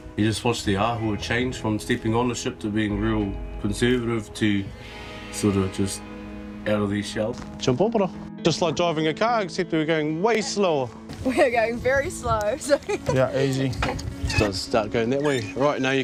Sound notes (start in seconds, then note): 12.7 laughs